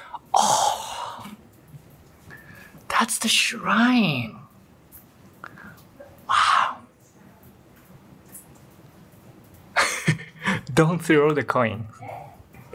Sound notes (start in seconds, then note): 9.8 chuckle